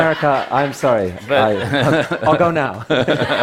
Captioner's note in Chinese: Laughter; 笑聲